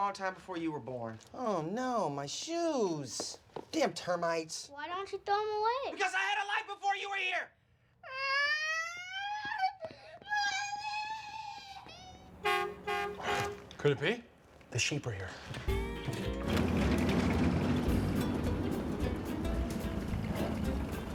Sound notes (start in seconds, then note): 9.7 crying; 12.4 horn blares